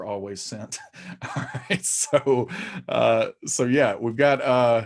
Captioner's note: chuckling